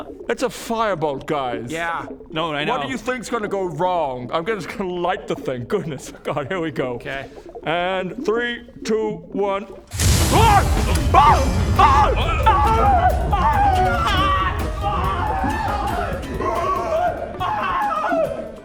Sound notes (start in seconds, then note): 9.9 whooosh; 12.4 screaming; 16.6 still screaming